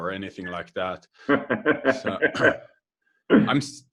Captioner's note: laughing